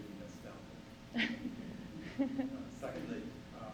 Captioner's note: chuckle